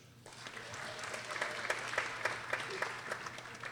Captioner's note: people applauding